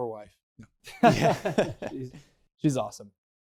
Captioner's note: laughs